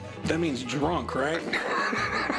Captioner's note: laughs